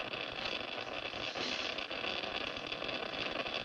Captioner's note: geiger counter going off